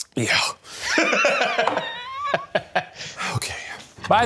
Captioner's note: laughing